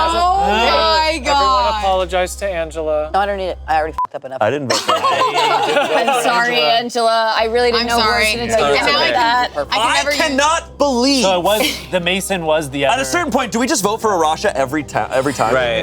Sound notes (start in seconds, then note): 3.9 beep; 4.7 laughs